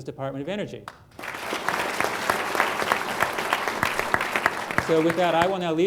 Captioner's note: applause